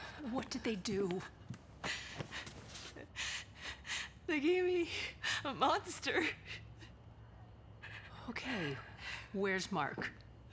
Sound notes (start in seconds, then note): 1.9 sobbing